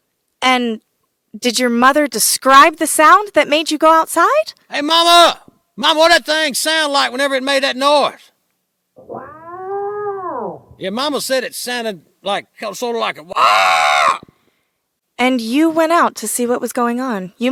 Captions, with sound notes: - And did your mother describe the sound that made you go outside? - Hey Mama! Mama, what did that thing sound like whenever it made that noise? (mother yelling) Yeah, mama said it sounded sort of like a... (squawking) - And you went out to see what was going on?